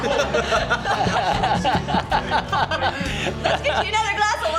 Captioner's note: laughing